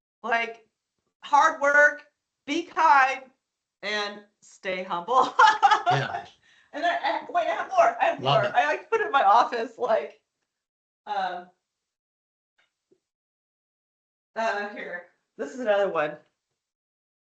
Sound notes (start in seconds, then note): 5.3 laughing